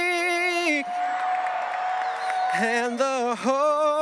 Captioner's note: audience cheering and applauding